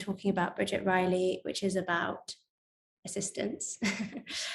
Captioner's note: chuckling